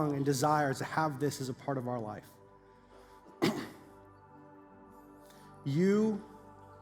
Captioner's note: clears throat